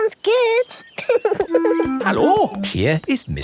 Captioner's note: laughing